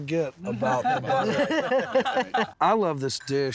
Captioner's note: laughter